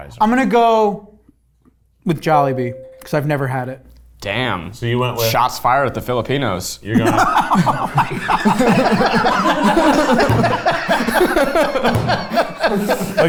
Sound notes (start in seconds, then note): 2.5 bell ringing; 6.9 laughing; 9.3 all laughing